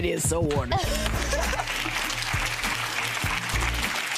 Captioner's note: audience applauding